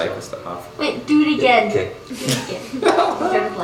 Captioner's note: laughs